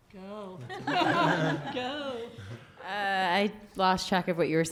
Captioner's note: laughter